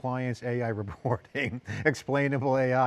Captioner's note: laughs